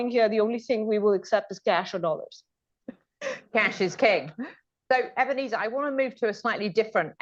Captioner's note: laughter